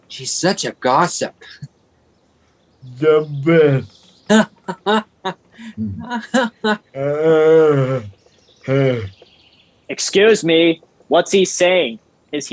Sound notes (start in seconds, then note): 4.5 Dickon laughing; 7.2 Ben laughing